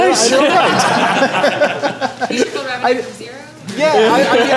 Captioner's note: laughter